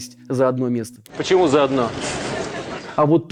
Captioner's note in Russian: Смех